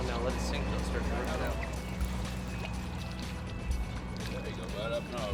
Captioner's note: crew chatting